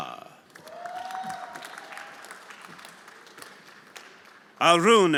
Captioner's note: everyone applauding